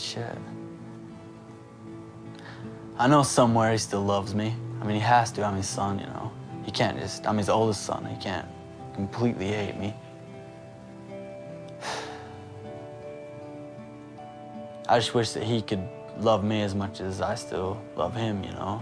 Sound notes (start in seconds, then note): 11.7 sighs